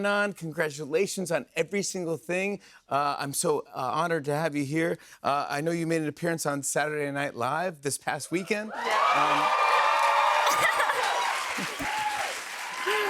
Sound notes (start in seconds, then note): 8.5 cheers and applause